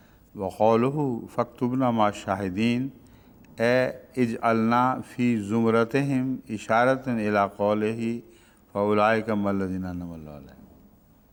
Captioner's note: Arabic